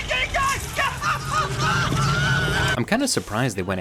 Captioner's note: Billy screaming; stutters